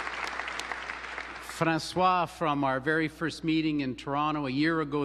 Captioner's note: applause